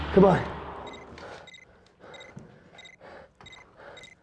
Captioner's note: beeping